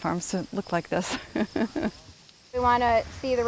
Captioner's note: chuckles